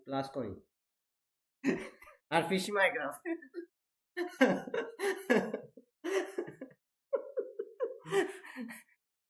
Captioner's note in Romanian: Râsete